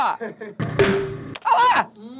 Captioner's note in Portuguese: lata explode